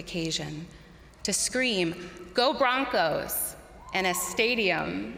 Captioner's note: crowd cheering